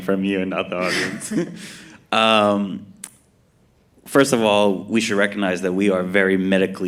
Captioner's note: laughs